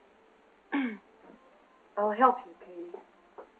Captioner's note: clears throat